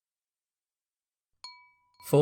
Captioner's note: chime sound